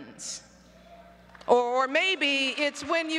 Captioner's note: applause